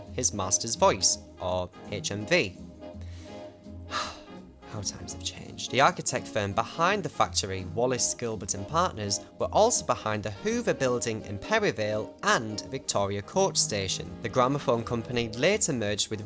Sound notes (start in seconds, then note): 3.9 sigh